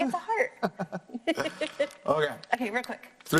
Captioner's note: laughs